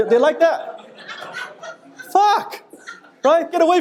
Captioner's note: audience laughing